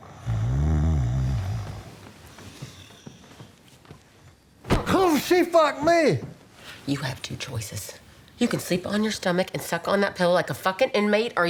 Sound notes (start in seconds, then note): 0.0 Tommy snores; 5.5 grunts